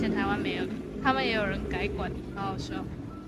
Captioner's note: motorcycles